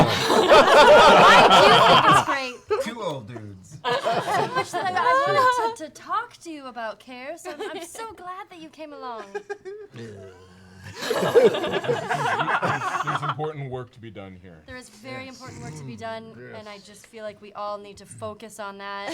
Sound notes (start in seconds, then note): 9.9 grumbles; 10.9 laughter